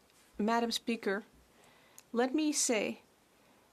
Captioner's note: speaking French